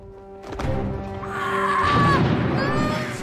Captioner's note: screaming